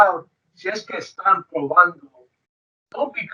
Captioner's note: speaks foreign language